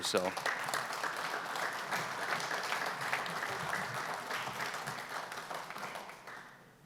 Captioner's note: applause